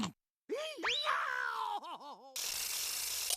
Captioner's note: screaming